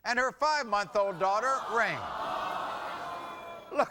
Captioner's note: audience vocalizing